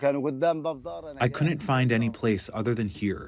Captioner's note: through translator